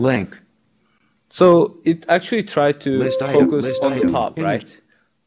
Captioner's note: beeping